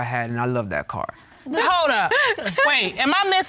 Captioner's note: laughs